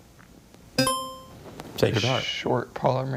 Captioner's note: buzzer chimes